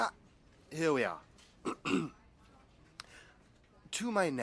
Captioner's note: he clears his throat